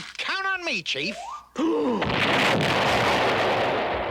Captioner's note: gasp